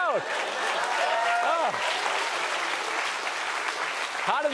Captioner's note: cheers and applause